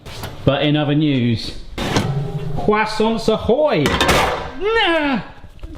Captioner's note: speaks foreign language